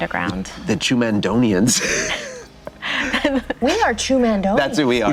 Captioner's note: wheezing laugh